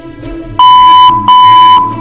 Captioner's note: machine beeps again